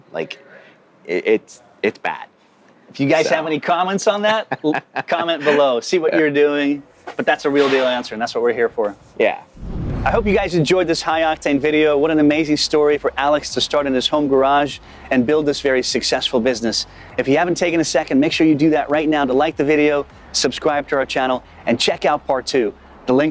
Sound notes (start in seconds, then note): 4.4 laughs